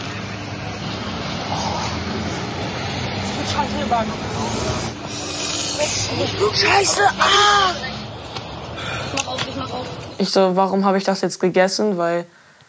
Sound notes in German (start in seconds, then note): 1.4 Stöhnen; 3.4 Stimmengewirr